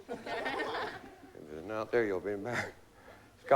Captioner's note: chuckling